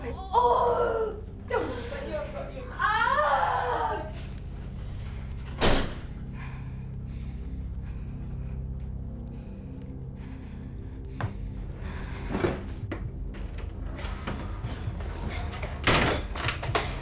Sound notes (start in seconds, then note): 0.1 Belle shouting; 2.8 Belle screaming; 5.5 door thudding; 6.1 Lucy panting; 6.3 tense music continues